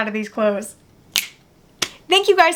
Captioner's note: snapping